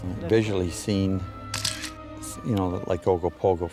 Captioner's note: camera shutter clicks